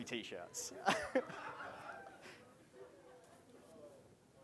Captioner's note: laughing